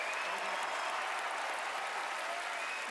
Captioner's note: audience cheering and clapping